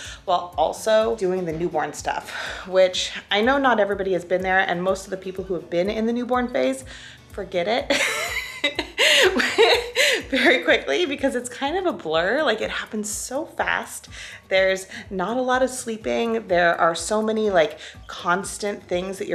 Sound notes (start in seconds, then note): 8.0 laughs